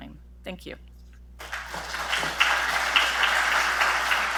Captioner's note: applause